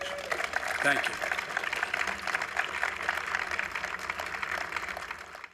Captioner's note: applause